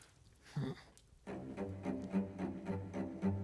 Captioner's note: sighs